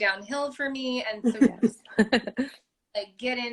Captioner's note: laughter